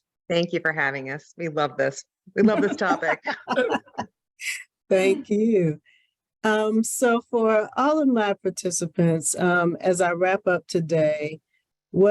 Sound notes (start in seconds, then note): 2.4 laughing